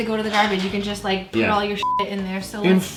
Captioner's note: beep